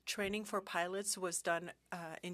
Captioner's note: speaking French